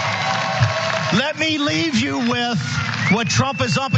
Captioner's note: applause